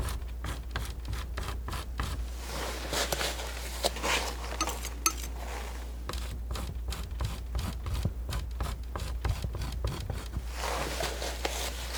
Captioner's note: scratching; scratching